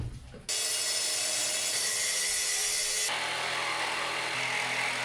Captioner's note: drill whirring